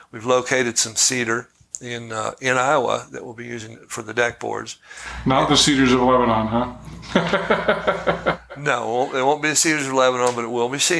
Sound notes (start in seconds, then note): 6.7 chuckling